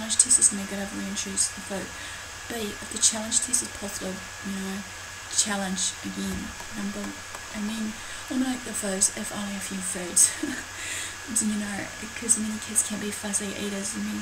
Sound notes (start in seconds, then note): 10.2 light giggle